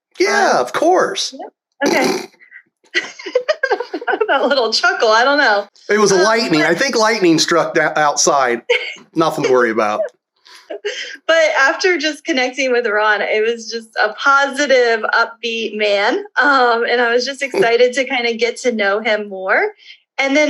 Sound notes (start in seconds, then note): 2.9 laughs; 9.3 laughter